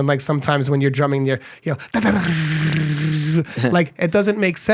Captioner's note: imitating beating drums